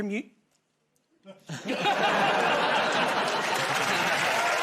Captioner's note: laughter; cheers and applause